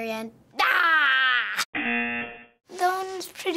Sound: buzzer

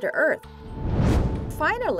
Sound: whoosh

